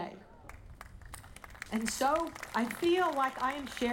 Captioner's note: audience applauding